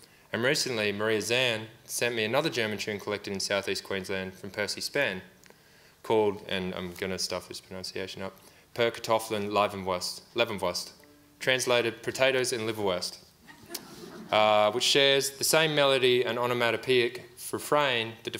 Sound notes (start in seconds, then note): 8.9 speaking in foreign language; 13.5 audience laughs